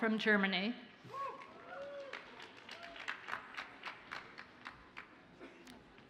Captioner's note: audience cheers and applauds faintly